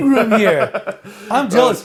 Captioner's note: laughs